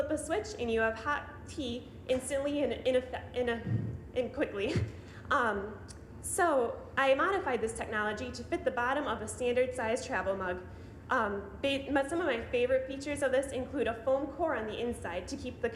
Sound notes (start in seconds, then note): 4.4 chuckling